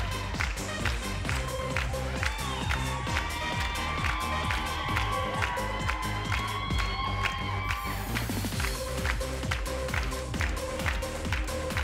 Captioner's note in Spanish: Palmadas al compás